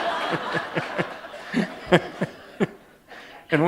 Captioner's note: laughter